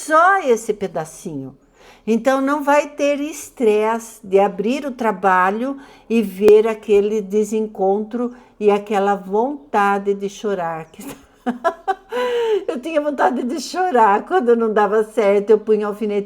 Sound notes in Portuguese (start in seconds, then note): 11.0 risadas; 12.0 suspirando